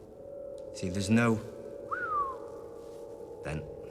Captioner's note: whistles